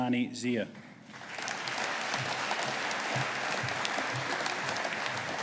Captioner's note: audience applauding